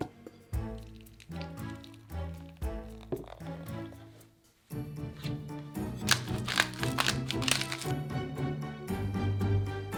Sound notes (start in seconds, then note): 6.0 black pepper cracking